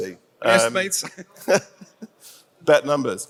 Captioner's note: laughs